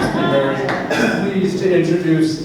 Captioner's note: laughs